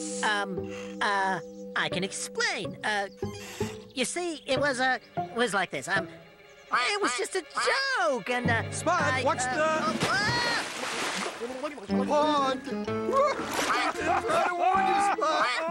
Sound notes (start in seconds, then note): 9.9 Spud screams, then splashes; 13.0 others laughing